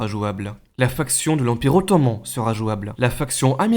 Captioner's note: Turkish